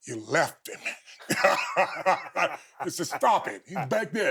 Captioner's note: both laughing